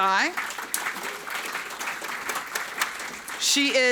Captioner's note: audience applauding